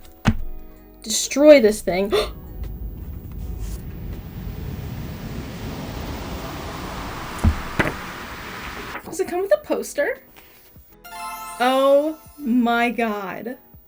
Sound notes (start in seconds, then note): 2.1 big surprised gasp..what could this be; 4.4 suspenseful sound